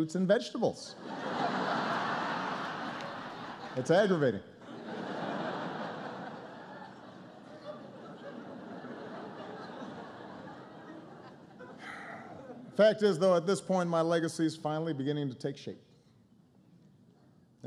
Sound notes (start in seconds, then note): 6.9 laughter